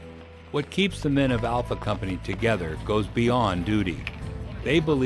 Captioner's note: voiceover